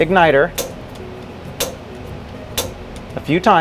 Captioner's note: button clicking